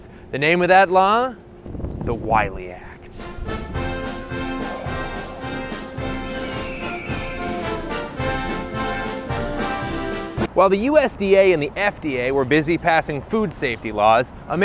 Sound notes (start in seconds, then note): 4.6 patriotic bird screech